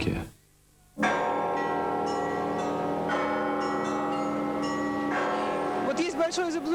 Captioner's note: the ringing of bells